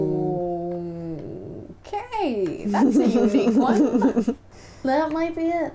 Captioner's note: laughter